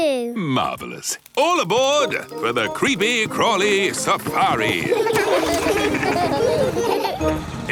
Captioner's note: laughing